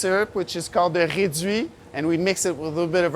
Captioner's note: speaking in French